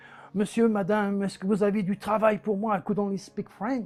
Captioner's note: speaking in foreign language